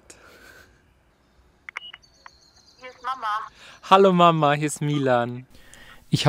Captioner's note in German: im Telefon